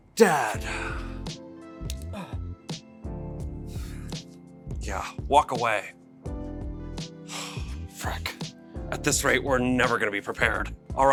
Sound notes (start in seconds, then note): 1.9 grunting; 7.2 exhaling